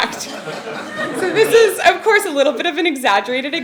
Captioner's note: laugh